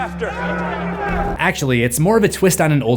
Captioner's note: crowd